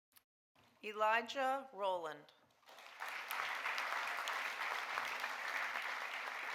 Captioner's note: audience applauding